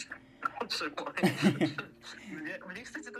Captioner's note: laughing awkwardly but in a good way